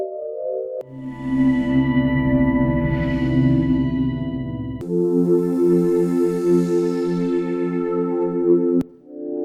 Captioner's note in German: warmer Umgebungsklang